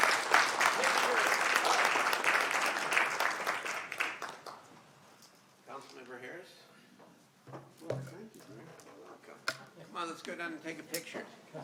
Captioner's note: applause